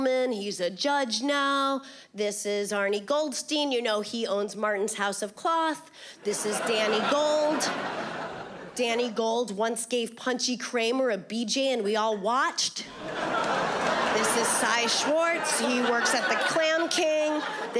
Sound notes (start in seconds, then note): 12.9 audience laughing